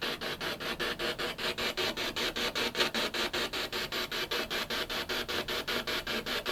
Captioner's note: noise of the spiritbox in the background